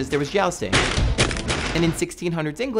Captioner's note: crashing